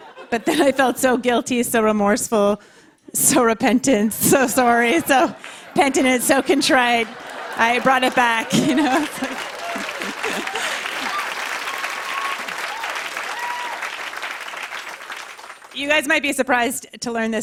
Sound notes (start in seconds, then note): 11.9 laughter and applause